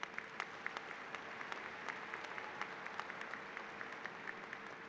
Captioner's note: applause